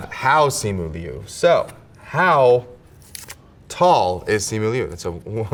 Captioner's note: paper rips